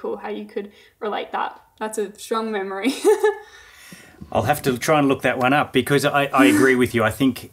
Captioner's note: laughing